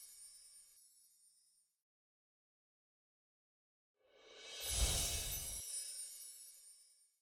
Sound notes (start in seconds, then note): 4.9 bells chiming